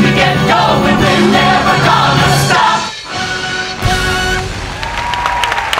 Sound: audience applause

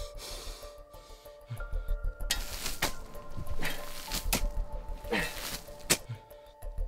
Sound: digging

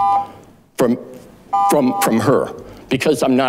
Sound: buzzer beeps

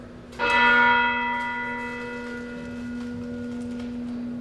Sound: bell dinging

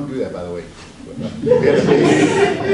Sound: audience laughs

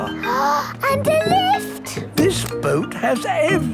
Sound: gasps

